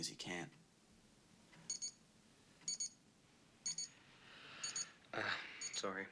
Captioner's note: beeping